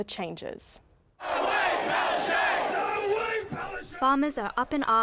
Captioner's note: crowd chant